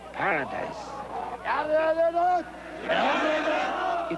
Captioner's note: chanting